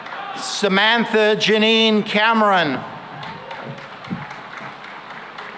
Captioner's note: applause